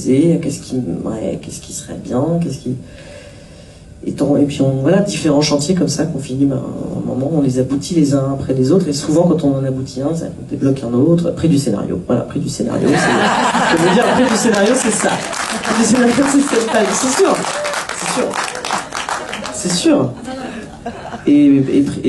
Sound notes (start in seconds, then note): 13.5 laughs